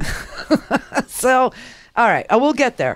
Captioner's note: laughs